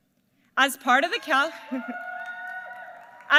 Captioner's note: applause